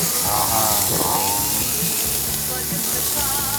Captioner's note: drooling